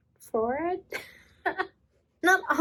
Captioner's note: laughs